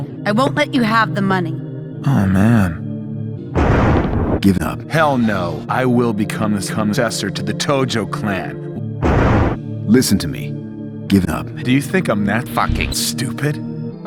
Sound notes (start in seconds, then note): 3.6 convenient thunder; 9.0 convenient thunder